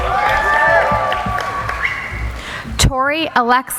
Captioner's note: applauding